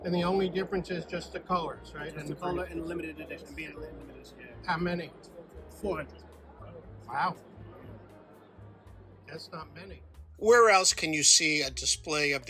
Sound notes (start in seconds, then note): 0.0 crowd noise